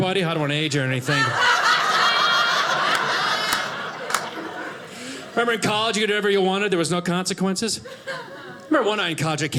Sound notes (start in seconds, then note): 0.3 audience laughing